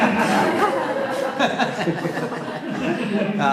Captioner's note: laughter